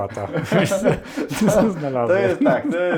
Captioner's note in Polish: śmiech